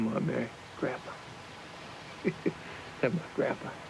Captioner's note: chuckling